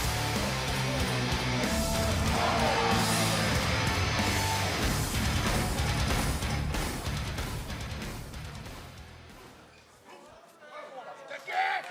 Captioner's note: crowd chatter; crowd cheering